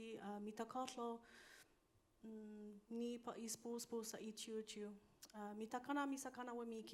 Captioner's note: continues speaking in foreign language